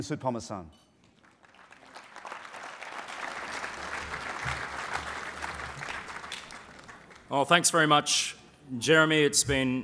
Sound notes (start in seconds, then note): 1.1 applause